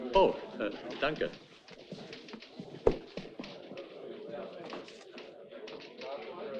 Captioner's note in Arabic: العميل يتحدث بلغة أجنبية; موظف يتحدث بلغة أجنبية